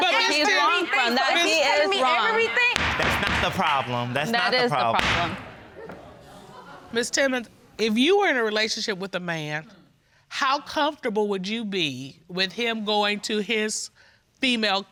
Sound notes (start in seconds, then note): 3.2 banging gavel